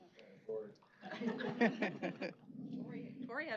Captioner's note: laughter